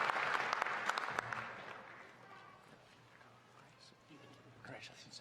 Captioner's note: applause